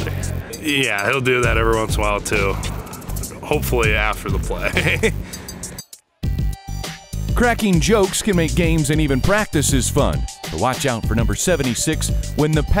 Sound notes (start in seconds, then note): 4.6 laughter